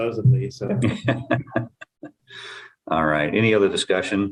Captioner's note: laughter